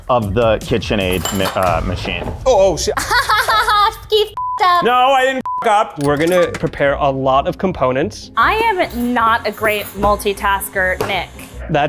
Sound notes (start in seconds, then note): 2.9 laughs